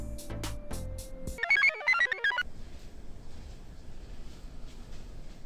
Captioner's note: computer chirps